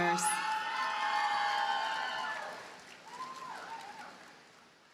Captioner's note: audience cheers and applauds